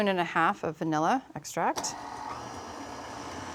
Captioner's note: mixer whirring